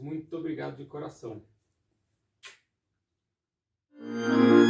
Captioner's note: kiss